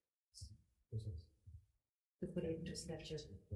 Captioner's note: speaking quietly with assistant